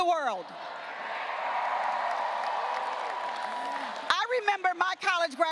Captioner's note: graduates cheering and applauding